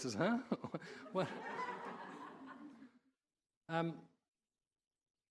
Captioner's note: audience laughing